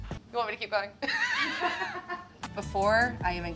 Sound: laugh

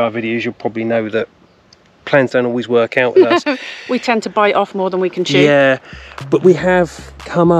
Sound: laughter

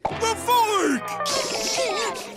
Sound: whimpering

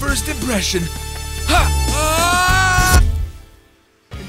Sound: screaming

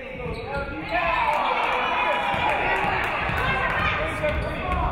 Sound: audience cheering

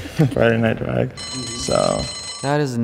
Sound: bell rings

